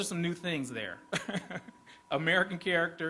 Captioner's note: laughs